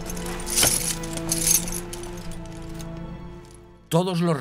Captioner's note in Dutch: pantser rammelt